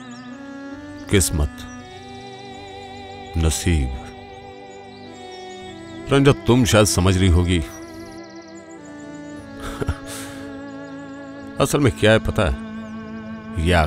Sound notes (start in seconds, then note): 9.4 chuckles